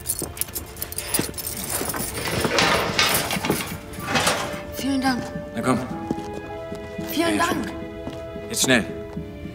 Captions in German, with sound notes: (Gitter scheppert.) Vielen Dank. - Na komm. Vielen Dank. - Jetzt schnell, ihr habt eine Stunde.